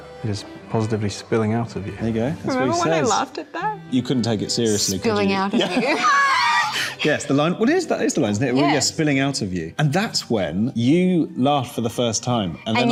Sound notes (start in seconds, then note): 5.5 both laughing